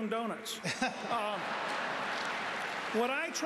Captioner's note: laughter